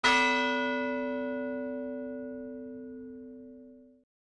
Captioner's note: bell ringing